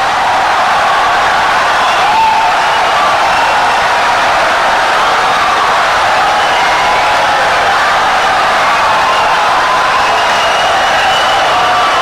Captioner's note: wild applause and cheering for 17 seconds